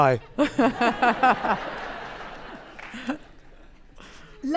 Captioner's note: audience laughing